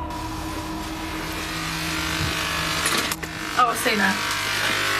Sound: loud buzzing

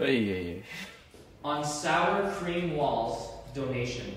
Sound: laughs

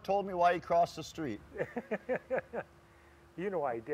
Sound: laughter

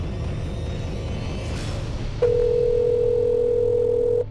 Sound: ringing

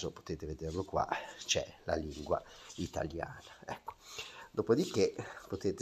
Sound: Italian language

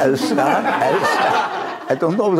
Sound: laughter

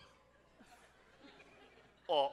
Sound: audience laughs

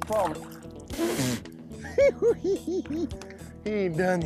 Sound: giggling

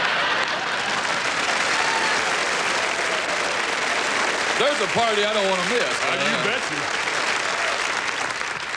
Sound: applause and laughter

